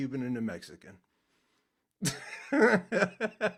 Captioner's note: laughing